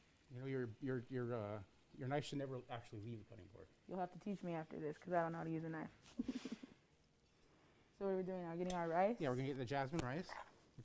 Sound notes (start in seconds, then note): 6.1 chuckles